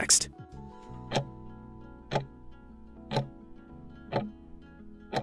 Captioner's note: timer ticking